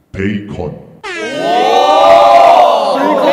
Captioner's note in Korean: 부러움의 환호